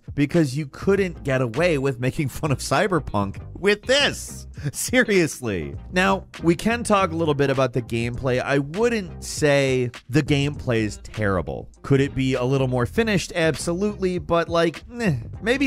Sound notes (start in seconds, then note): 5.4 laughs